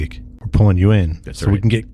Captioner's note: uh